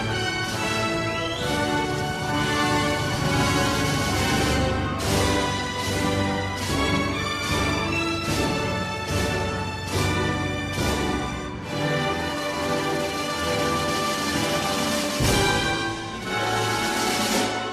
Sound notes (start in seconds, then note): none